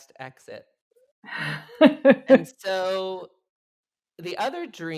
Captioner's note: laughs